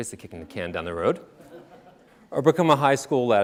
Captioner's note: audience laughing